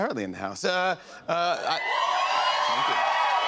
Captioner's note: cheers and applause